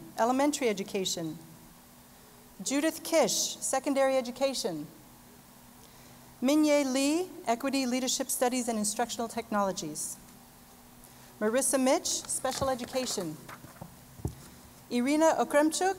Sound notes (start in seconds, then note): none